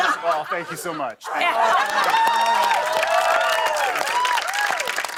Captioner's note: cheers and applause